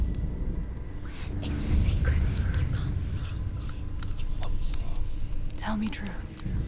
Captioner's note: whispering